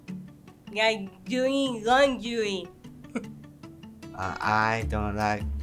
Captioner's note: chuckles